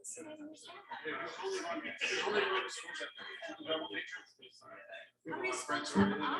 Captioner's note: people chattering indistinctly